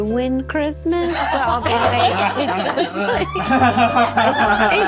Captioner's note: all laughing